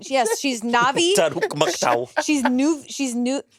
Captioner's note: speaking Lìʼfya leNaʼvi; Monét laughing